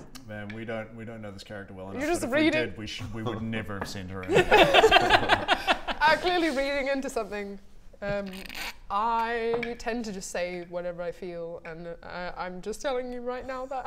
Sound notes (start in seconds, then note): 4.3 mean giggles